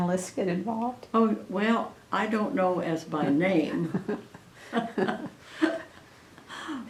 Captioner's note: laughter